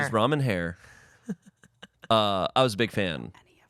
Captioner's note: laughs